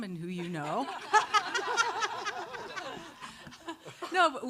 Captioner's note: all laughing